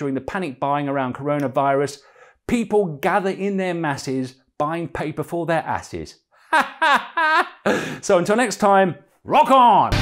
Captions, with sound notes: panic buying around Coronavirus: 'People gather in their masses; Buying paper for their asses'. [LAUGHS] So, until next time, rock on!